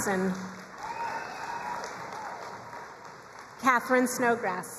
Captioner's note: crowd cheering and applauding